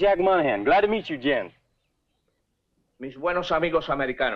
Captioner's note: General Tostada speaking in Spanish